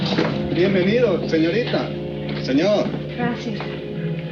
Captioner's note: man speaking in foreign language